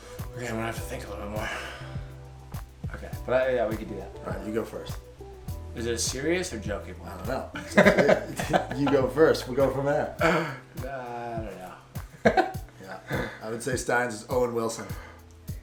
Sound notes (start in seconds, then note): 7.5 both laughing; 12.1 laughs